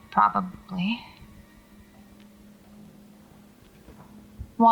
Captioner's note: footsteps resume